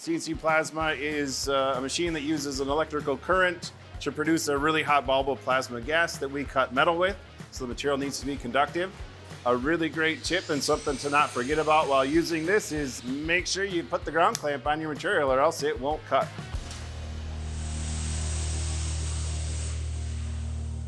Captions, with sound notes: CNC Plasma is a machine that uses an electrical current to produce a really hot bulb of plasma gas that we cut metal with. So, the material needs to be conductive. A really great tip and something to not forget about while using this is make sure you put the ground clamp on your material or else it won't cut. [metal hissing]